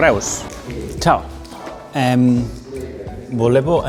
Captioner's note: in Italian